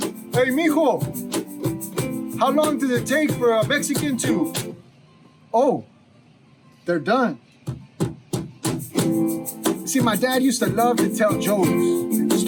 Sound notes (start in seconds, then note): 4.8 music stops; 8.8 gentle guitar music